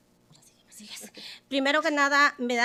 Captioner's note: whispers; speaking Spanish